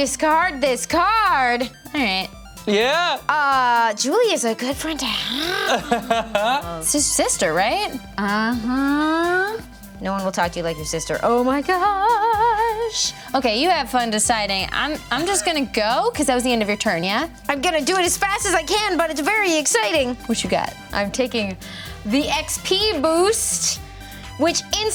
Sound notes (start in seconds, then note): 5.4 laughs